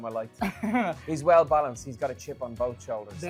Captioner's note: chuckles